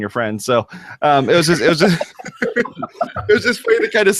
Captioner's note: everyone laughs